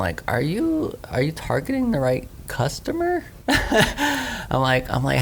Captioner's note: laughs